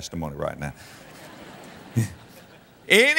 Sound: audience laughter

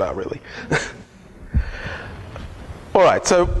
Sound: laughter

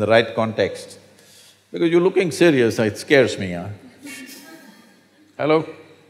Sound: few laugh

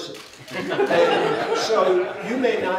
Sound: laughter

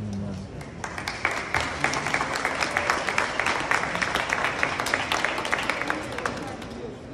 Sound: applause

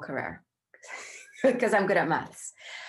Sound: they chuckle

